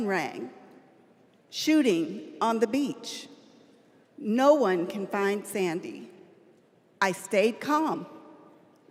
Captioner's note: none